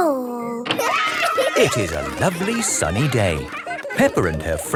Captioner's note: cheering